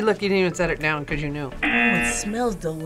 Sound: buzzer

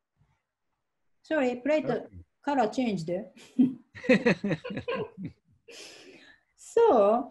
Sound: both laughing

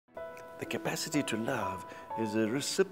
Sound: voiceover

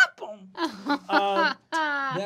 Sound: laughing

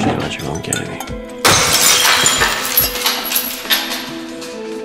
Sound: glass breaking

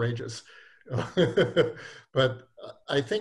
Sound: laughs

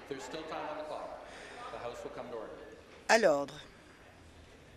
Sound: conversation din

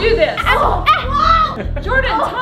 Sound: kids groaning

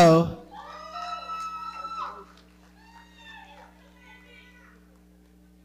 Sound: audience cheering

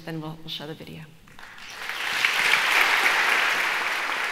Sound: applause

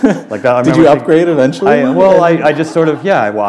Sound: laughter

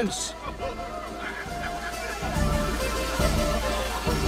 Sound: crowd murmuring

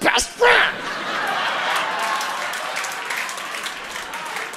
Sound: audience laughing

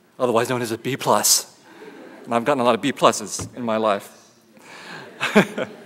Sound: laughter

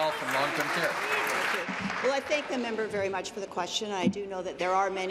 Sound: applause

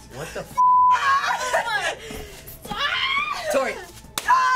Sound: screaming

